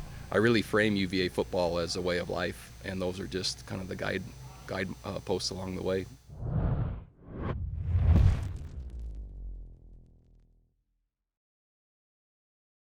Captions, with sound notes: I really frame UVA football as a way of life. And those are just kind of the guideposts along the way. [WHOOSH]